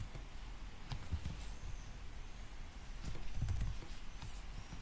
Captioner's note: typing noise